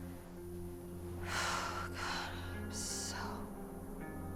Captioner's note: sighs